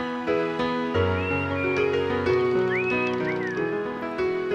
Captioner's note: Ollie whistling